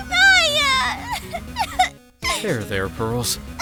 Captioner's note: sobbing